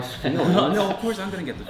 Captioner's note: laughing